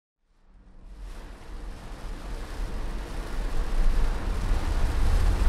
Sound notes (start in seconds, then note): 0.7 rain falls